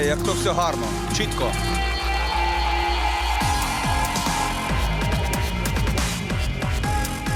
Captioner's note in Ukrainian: оплески